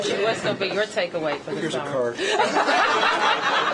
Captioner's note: laughter